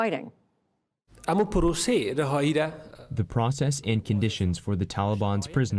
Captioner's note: through translator